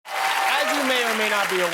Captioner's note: applause